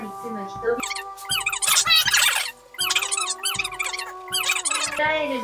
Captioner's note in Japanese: パソコンが翻訳された文章を読む